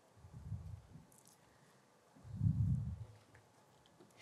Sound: silence

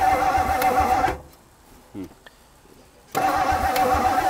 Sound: vehicle engine stops; vehicle engine humming

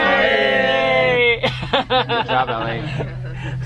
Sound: laughing

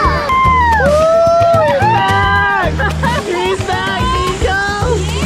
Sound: everyone shouting

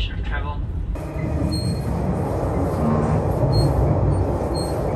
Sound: wind blowing

